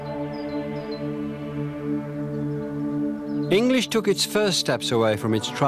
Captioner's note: chanting